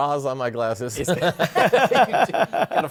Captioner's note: laughter